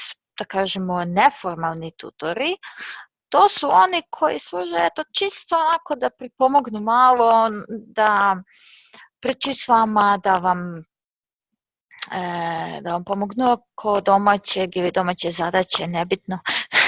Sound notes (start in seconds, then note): 13.5 Serbian; 15.2 Croatian